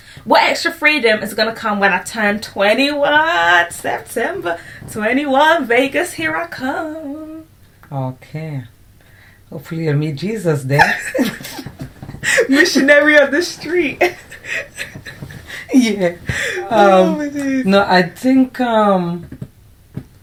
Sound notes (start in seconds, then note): 10.7 laughter; 14.0 laughter